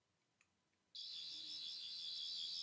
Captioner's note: sonic screwdriver sound effect